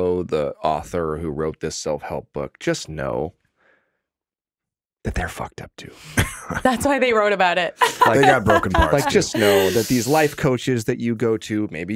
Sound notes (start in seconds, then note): 7.8 laughing; 7.8 chuckling